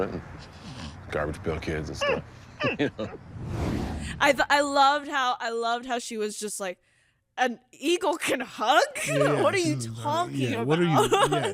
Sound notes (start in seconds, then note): 1.9 laughs; 3.2 air whooshing